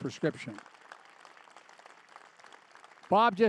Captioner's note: applause